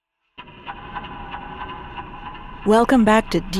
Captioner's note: clock ticking distantly; low electronic music